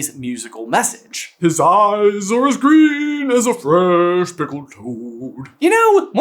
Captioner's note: intoning deeply